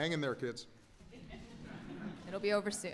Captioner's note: laughter